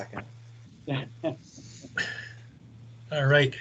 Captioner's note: both laugh